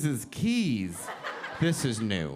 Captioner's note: audience laughing